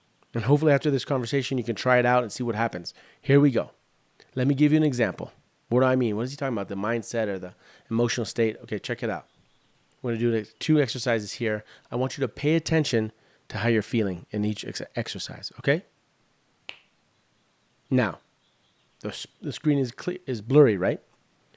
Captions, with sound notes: And hopefully after this conversation, you can try it out and see what happens. Here we go. Let me give you an example. What do I mean? What is he talking about, the mindset or the emotional state? Check it out. We're going to do 2 exercises here. I want you to pay attention to how you're feeling in each exercise, okay? [snaps] Now... The screen is blurry right?